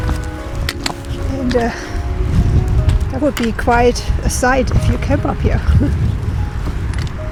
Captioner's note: laughs